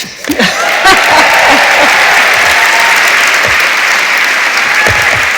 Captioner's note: audience applauds